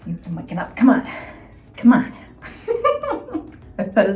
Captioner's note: laughs